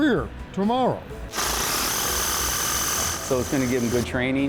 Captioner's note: drill spinning